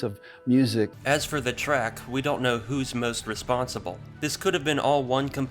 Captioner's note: voiceover